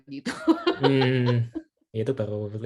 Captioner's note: laughs